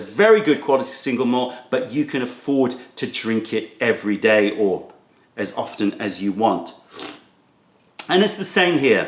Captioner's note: sips tea